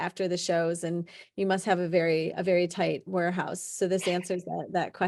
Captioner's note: chuckling